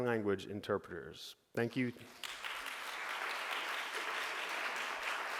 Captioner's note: audience applauding